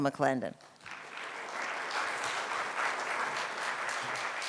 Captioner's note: audience applauds